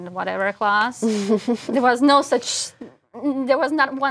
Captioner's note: laugh